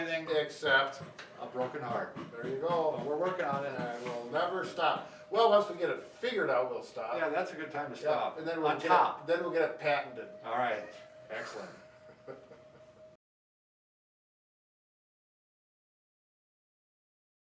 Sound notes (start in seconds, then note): 11.4 laughing